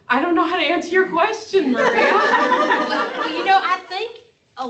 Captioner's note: laughter